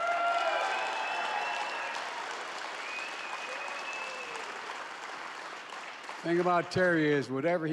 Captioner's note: applause